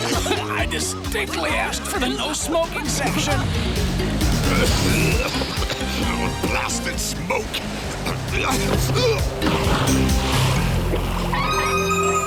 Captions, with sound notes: I distinctly asked for the no-smoking section. [coughing] Blasted smoke! [grunting]